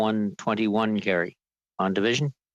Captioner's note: speaking French